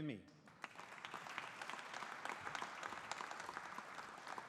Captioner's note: audience applauding